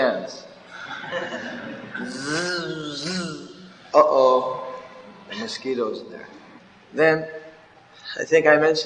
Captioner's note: laughs